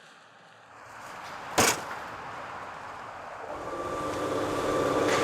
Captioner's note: cement mixer whirring